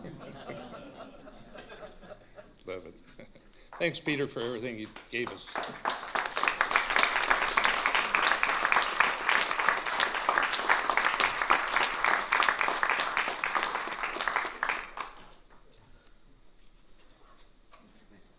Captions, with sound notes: [laughter] Love it. Thanks, Peter, for everything you gave us. [applause]